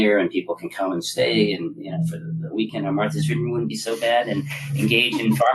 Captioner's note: laugh